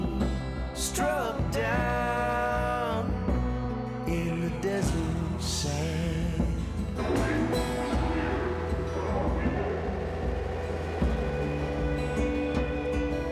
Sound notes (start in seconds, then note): 6.2 distorted voice